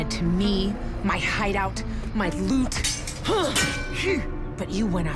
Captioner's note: grunting